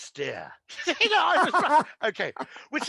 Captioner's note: laughing